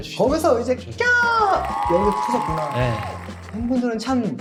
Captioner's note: cheers erupt with every reveal